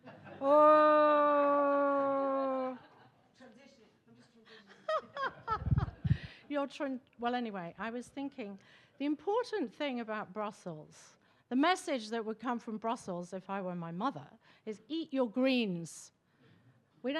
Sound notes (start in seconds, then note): 0.0 attendees laughing; 4.9 everybody laughing